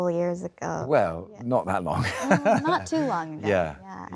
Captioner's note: laughs